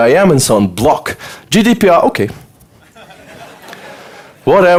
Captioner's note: audience laughter